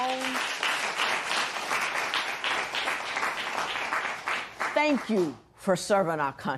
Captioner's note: applause